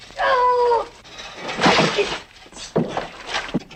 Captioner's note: splash